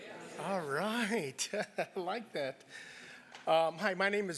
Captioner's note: laugh